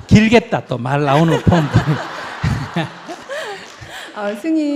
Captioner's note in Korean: 질문자와 청중 웃음